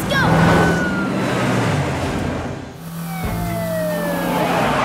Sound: sirens blaring

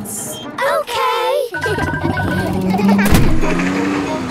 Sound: kids laughing

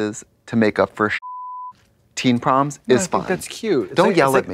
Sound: beep

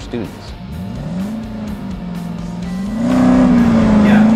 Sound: revving

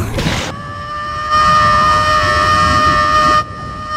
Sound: Link screaming

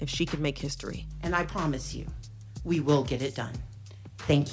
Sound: soundbite of archived recording

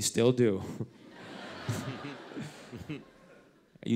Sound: laughter

